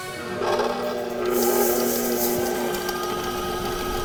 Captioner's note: mixer whirring